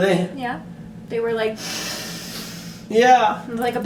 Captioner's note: inhales deeply